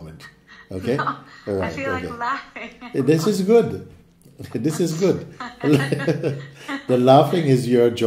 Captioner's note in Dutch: lacht